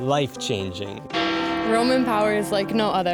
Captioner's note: bell ringing